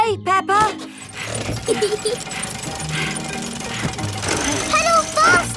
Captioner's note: mummy pig panting; peppa laughing